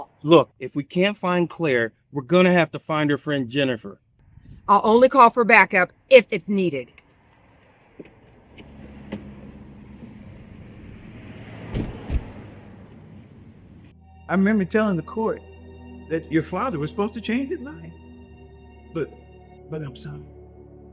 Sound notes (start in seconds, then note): 8.0 doors shutting; 9.5 engines rumbling